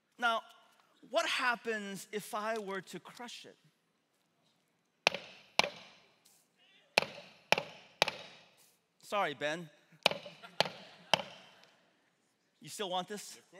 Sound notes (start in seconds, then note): 4.7 hammer banging; 10.2 congregation laughing